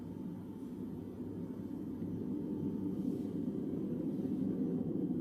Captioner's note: sound of wind fades in and grows louder